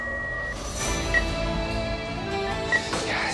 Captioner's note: life support unit sound